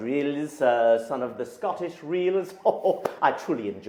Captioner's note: laughs